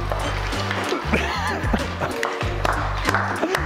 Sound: laughs and claps

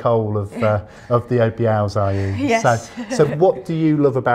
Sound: chuckles

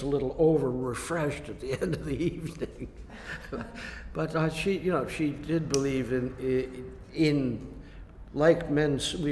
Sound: laughs

